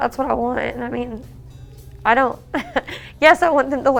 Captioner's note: chuckles